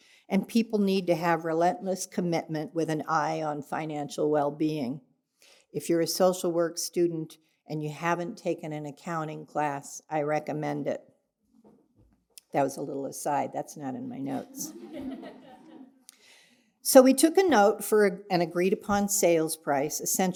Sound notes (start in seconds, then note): 14.4 audience laughing